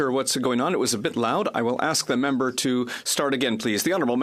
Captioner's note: speaking French